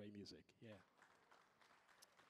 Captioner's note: audience applauding